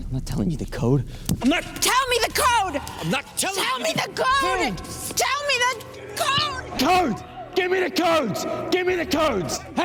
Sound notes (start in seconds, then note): 3.7 shouting; 7.6 shouting